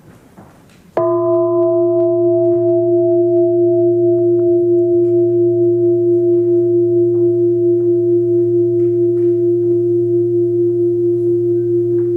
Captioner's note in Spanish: Suena el gong